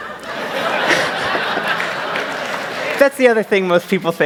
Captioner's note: laughter